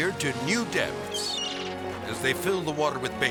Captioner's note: gull crying